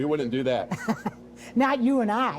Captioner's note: chuckles